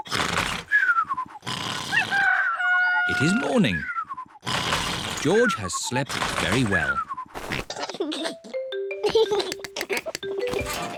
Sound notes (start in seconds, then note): 2.0 cockerel crows; 9.0 giggles